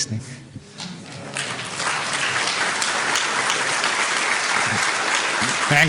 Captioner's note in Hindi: तालियाँ